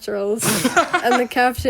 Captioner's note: both laugh